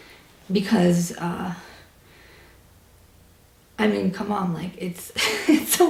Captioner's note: laughs